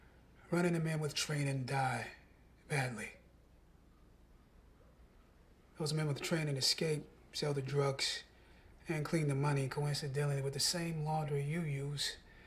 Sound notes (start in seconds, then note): none